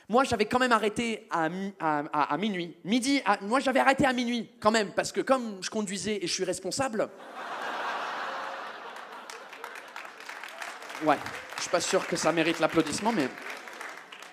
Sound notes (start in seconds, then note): 7.8 audience starts clapping